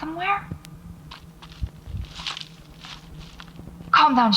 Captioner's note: footsteps